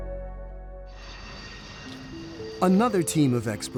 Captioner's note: plane engine whirring